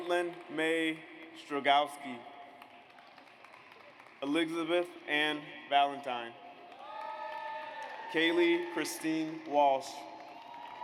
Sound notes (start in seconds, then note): 2.6 audience applauds; 6.6 audience applauds